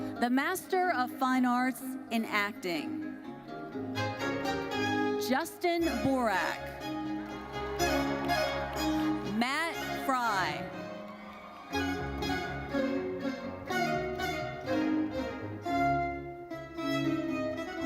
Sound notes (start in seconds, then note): 7.1 audience cheers; 10.8 classical music continues